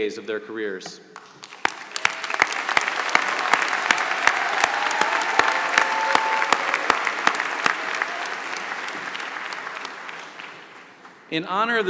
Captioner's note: applause